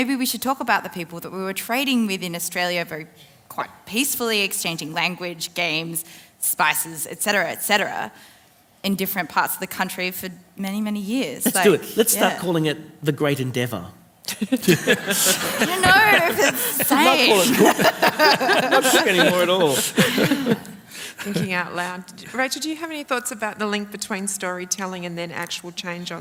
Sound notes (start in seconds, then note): 13.8 laughter, crosstalk